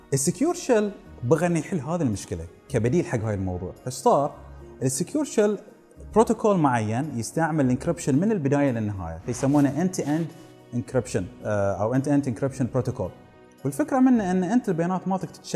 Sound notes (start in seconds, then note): 4.7 ssh